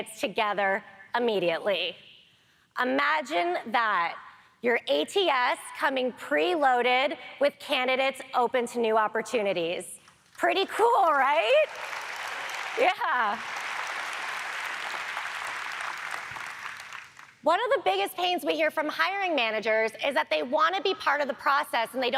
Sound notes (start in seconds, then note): 11.0 audience applaud